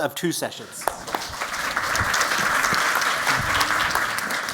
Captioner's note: applause